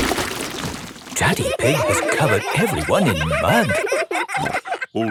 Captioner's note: all laughing